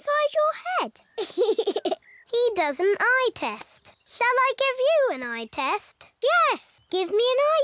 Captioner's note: laughs